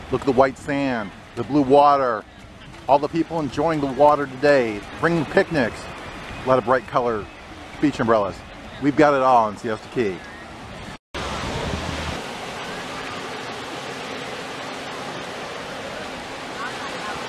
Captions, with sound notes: Look at the white sand, the blue water. All the people enjoying the water today, bringing picnics. Lot of bright color beach umbrellas. We've got it all in Siesta Key. (water splashing)